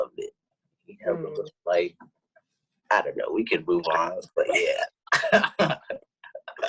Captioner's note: laughs